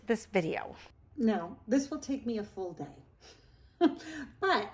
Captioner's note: laughs